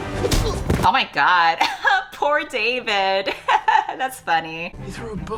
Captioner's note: laughs